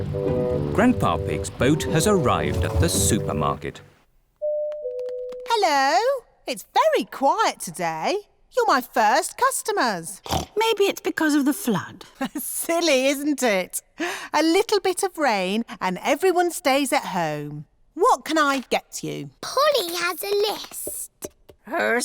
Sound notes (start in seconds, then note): 10.2 snorts; 12.6 laughs